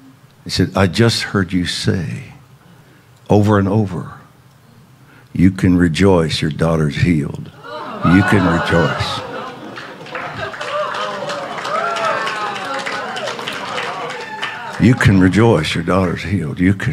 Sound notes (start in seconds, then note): 10.2 congregation clapping